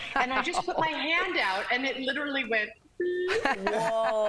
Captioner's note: laughter